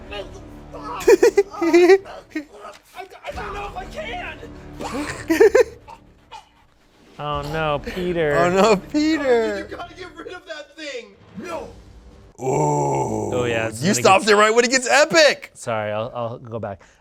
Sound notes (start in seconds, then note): 1.0 laughs; 4.9 chokes